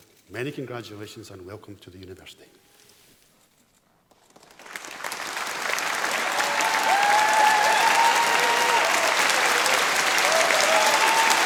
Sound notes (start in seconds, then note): 4.2 applause; 6.9 cheering and applause